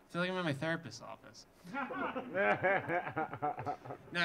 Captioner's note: audience laughing